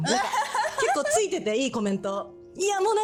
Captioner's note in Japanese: 笑い